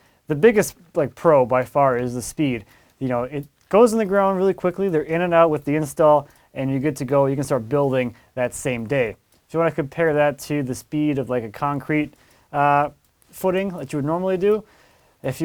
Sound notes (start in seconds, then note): none